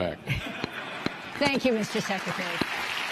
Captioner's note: laughter